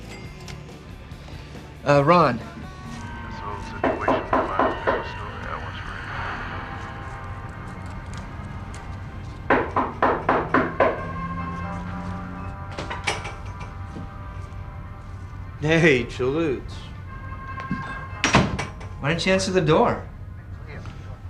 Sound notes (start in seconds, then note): 3.8 knocking at the door; 9.5 knocking at the door; 12.7 door opening; 17.6 door closing